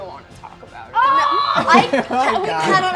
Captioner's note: screams in filial horror